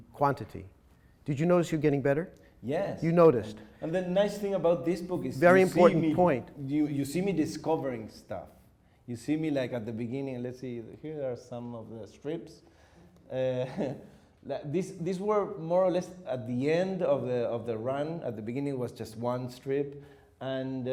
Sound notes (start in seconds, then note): 13.6 chuckles